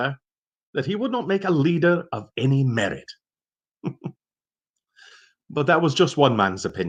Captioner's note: chuckling